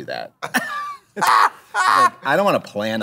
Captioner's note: laughter